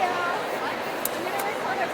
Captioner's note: voiceover